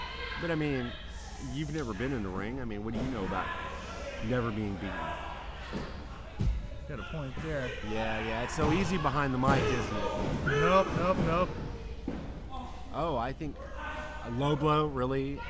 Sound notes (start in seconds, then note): 0.0 crowd yelling